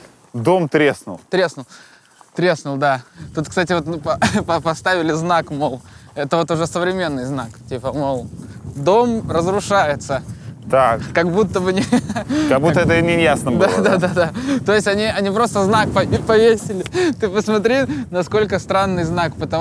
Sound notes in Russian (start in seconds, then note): 11.7 смеется